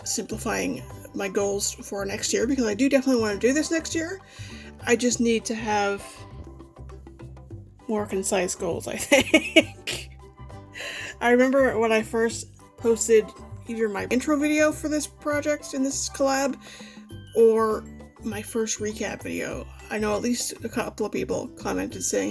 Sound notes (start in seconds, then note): 9.0 laughs